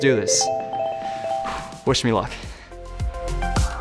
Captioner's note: exhales